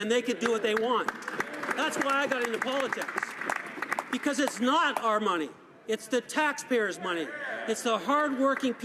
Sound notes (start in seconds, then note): 0.2 applause